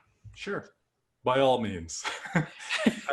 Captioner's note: laughter